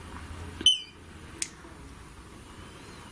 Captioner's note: beep